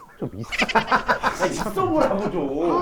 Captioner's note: hahahahaha